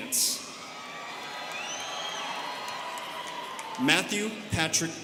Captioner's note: students cheering